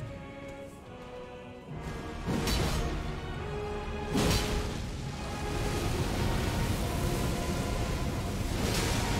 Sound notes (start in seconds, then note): 0.2 intense music continues; 2.3 sword fighting